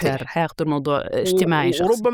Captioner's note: none